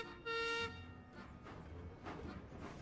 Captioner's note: peter sam whistles